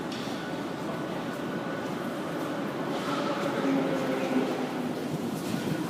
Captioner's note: arrival of train at the station